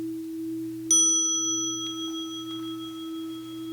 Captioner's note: small bell